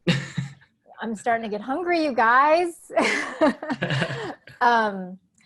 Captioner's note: laughing